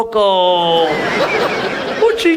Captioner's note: audience laughs